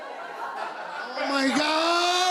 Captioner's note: laughter